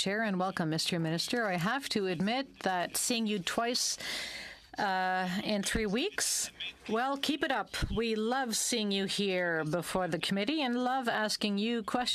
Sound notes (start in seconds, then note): 7.0 speaking french